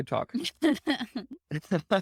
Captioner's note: laughing